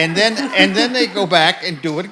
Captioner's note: audience laughs